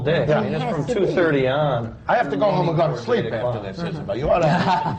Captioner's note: laughter